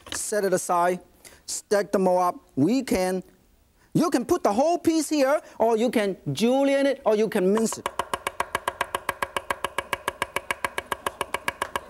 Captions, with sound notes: Set it aside, stack them all up. You can put the whole piece here, or you can julienne it or you can mince it. (chopping)